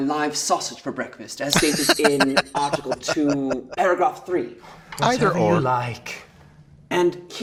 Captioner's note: laughing